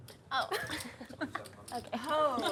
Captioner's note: laughs